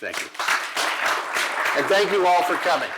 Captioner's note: applause